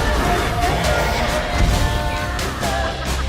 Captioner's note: roaring